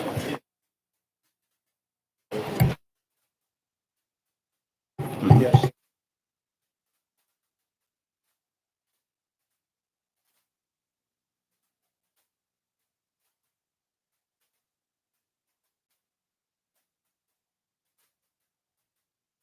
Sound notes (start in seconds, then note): 3.5 room chatter and microphone testing